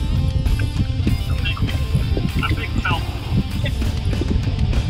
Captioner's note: laughs